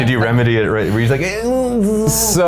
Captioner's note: makes buzzing sounds